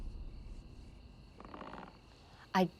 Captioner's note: creaking